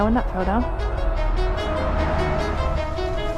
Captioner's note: cars